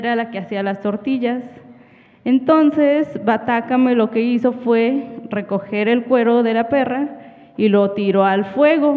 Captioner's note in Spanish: habla en wixárika